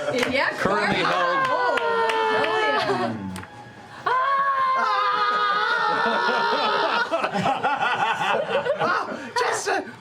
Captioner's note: yelling